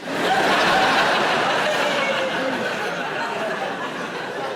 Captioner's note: audience laughing